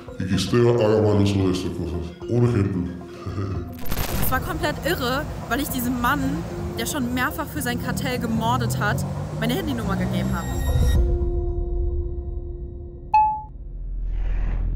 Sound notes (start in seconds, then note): 13.1 message tone